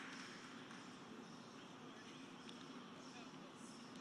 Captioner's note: applause